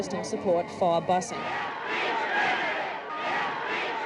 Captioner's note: chanting